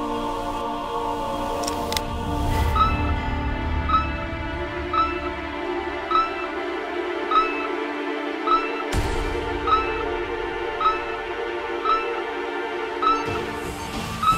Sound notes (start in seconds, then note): 1.6 Clicking sound; 1.8 Beeping